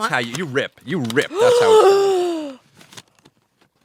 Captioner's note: gasps